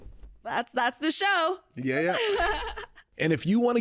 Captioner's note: laughs